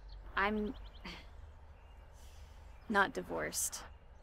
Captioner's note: sighs